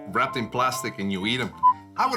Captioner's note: beeping